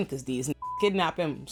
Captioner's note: beep